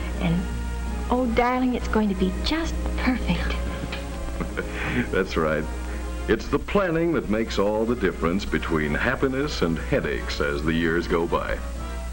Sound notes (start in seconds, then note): 3.5 chuckles